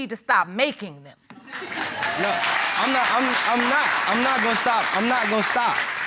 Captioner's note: audience applauding